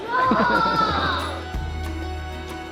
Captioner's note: soft music; laughing